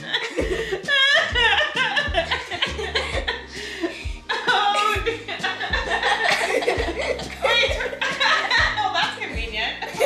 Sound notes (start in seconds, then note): 4.2 laughing continues; 9.8 family laughing